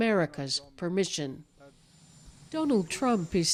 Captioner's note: speaking alternate language